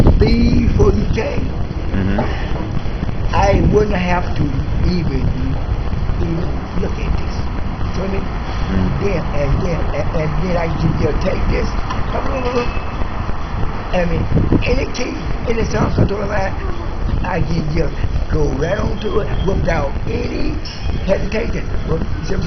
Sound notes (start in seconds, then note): 11.5 simulates violin sounds